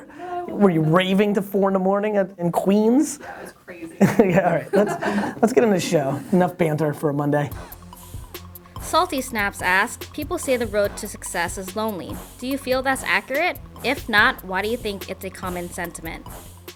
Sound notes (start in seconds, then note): 8.9 voiceover